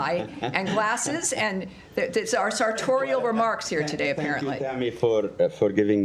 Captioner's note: laughter